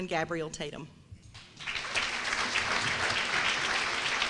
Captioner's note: applause